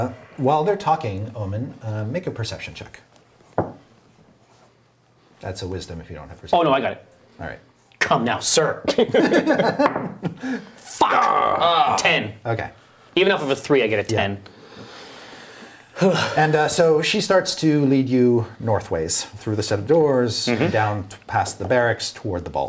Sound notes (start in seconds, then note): 9.5 laughing